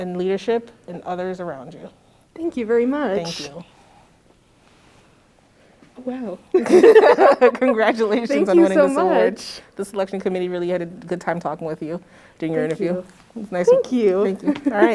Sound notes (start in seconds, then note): 6.5 laughter